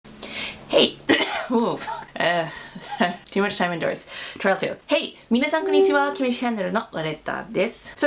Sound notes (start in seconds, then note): 1.1 cough